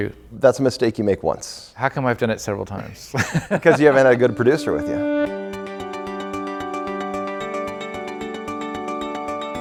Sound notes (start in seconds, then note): 2.8 laughs; 3.4 upbeat music